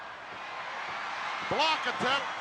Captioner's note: audience cheering